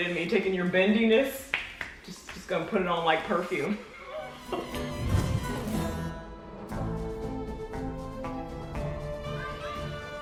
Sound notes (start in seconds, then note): 3.8 laughing; 4.3 upbeat music